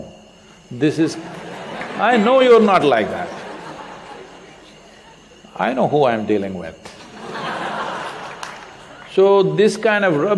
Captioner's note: laughter; laughter